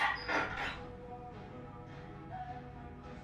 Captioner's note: metal clanking